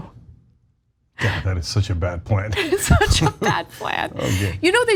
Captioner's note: laugh